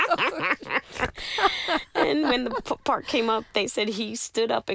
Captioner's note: laughter